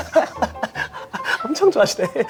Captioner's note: just laughs